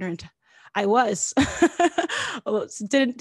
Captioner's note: laughs